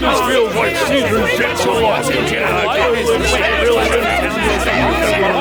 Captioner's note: crowd chattering